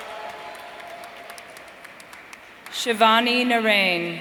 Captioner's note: audience cheering